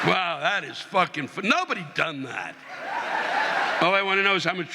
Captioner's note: audience laughing